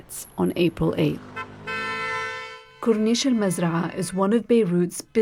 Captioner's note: horn honking